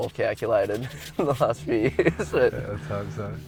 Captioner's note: laughs